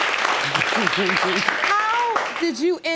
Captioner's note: laughs